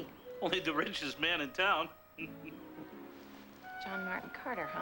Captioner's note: chuckles